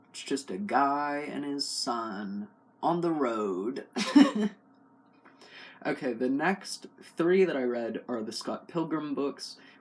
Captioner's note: laugh